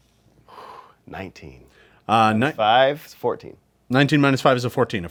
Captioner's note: sighs